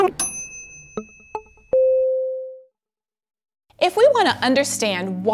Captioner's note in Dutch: bel klinkt